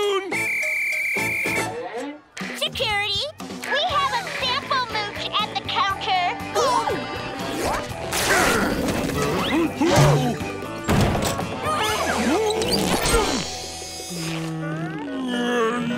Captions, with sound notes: and I would like you to use... my spoon! Security, we have a sample mooch at the counter. [grunting] [screaming]